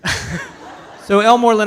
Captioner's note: audience laughs